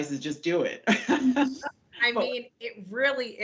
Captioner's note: laughs